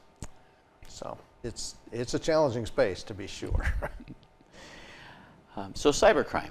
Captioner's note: chuckling